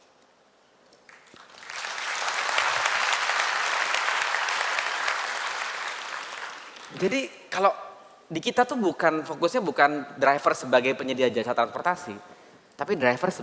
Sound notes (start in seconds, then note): 1.0 applause